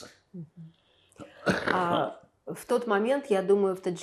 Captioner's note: coughing